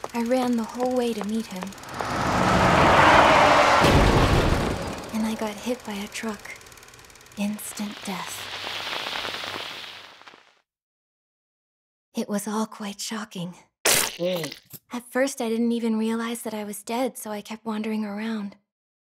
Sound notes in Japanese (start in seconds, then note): 1.1 車の走行音; 3.8 衝突音